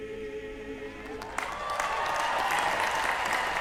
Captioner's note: cheering